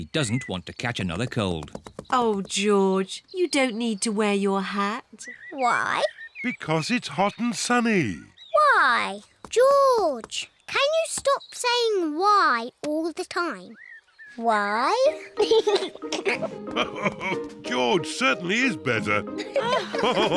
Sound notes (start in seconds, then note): 14.9 laughs; 15.0 giggles